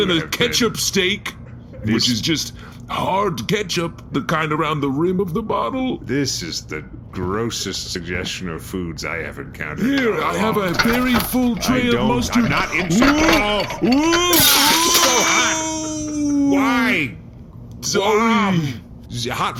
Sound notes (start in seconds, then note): 15.0 dramatically